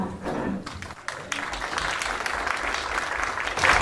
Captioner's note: applause